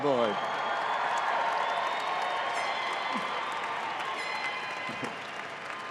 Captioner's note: audience applauding and cheering